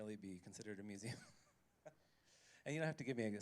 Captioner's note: laughs